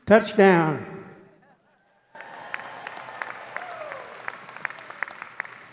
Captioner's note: audience applauding